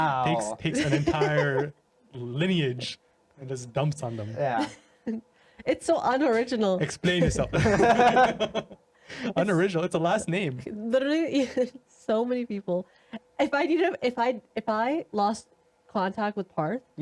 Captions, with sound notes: Wow. Takes an entire lineage and there's dumps on them. Yeah. It's so unoriginal. Explain yourself. (laughing) Unoriginal, it's a last name. Literally, so many people. If I lost contact with Parth.